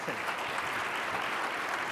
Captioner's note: applause